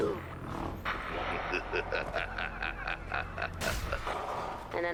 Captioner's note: maniacal laughter